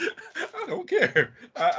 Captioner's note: laughing